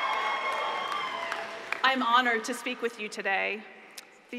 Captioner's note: applause